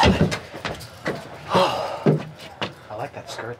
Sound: Jimmy sighs

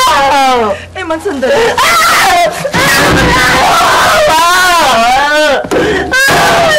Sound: Emman continues wailing; shrieking

